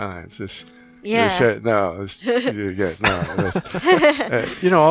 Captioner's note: laughing